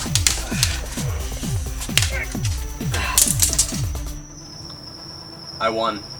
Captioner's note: more fight noises and groans